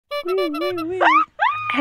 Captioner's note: clown horn; screaming